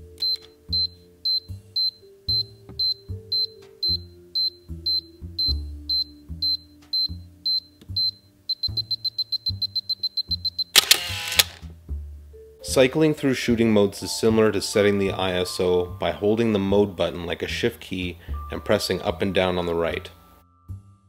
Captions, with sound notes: [Beeping] [Shutter Fires] Cycling through shooting modes is similar to setting the ISO by holding the mode button like a shift key, and pressing up and down on the right.